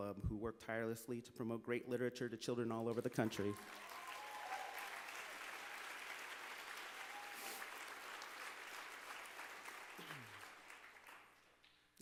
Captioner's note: applause